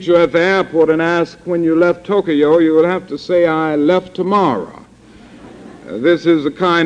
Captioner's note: laughter